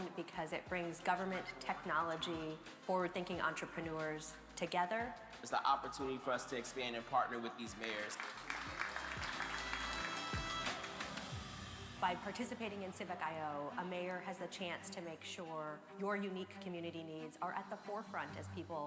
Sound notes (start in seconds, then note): 7.6 crowd applauding; 8.6 bright music